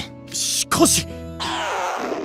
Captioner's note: stomach growl